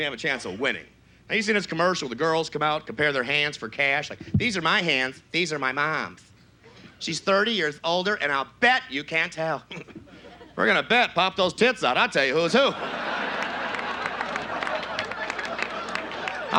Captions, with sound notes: you have a chance of winning. I used to see this commercial where the girls come out, compare their hands for cash like, (effeminate voice) "These are my hands, these are my mom's. "She's thirty years older and I'll bet you can't tell." (normal voice) We're gonna bet. Pop those tits out, I'll tell ya who's who. (audience laughs)